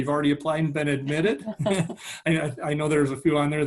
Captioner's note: laughing